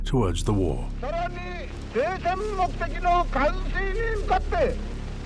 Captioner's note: Tojo speaking in Japanese